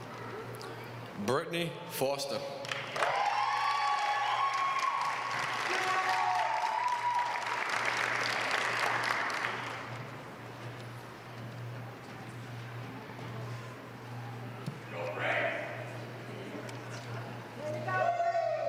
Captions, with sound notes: >> Bertney Foster. >> [APPLAUSE] >> Way to go.